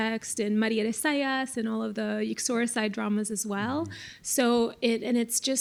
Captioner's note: non-english